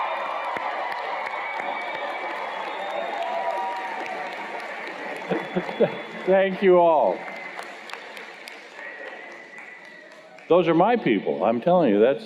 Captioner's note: cheers and Applause